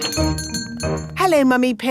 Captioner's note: doorbell chiming